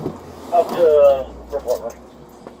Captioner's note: radio chatter